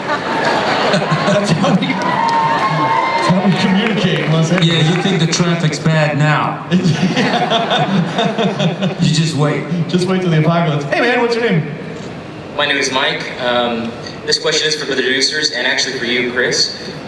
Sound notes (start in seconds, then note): 0.0 laughter; 6.7 laughter; 12.4 voiceover